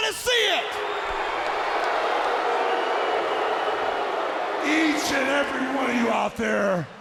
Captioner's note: crowd cheering